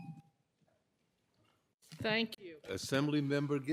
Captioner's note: timer tone